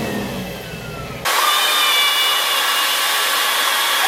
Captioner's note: screams